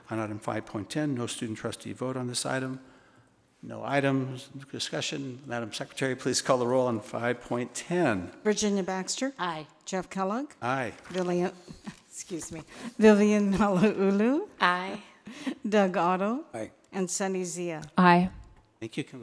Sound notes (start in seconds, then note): 16.0 laughs